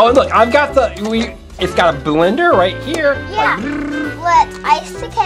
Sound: imitates blender spinning

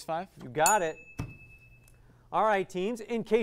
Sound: ding

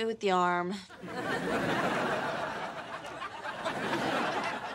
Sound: audience laughing

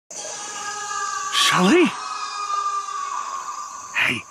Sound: Shelly screaming

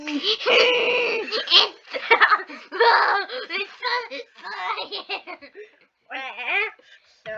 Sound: laughs

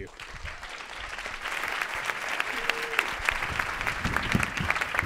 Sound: audience applauding

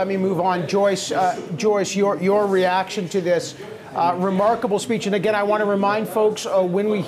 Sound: speaking French

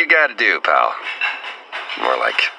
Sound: the sound of midas flopper in the kitchen

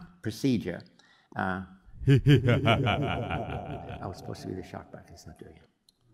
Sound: laugh

